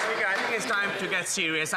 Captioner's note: some Applause